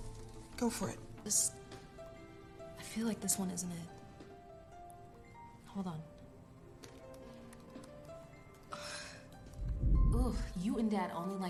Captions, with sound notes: Okay, go f for it. Hold on. [typing] Ooh, you and dad onlnly liked Sweet Rose